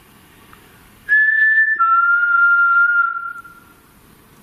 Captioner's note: whistling